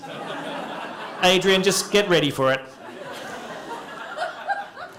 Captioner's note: laughter